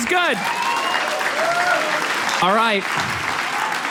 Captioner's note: audience applauds